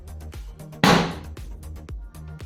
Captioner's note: hit